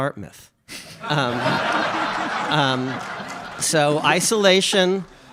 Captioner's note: audience laughs